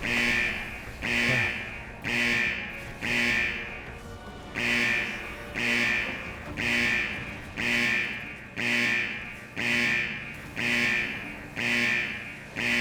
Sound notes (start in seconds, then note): 5.5 buzzing